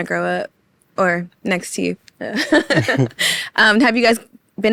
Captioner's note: laughs